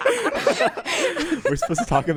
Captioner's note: laughs